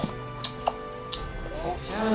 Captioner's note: gurgling and slurping milk